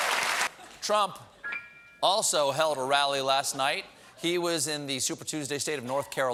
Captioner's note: applause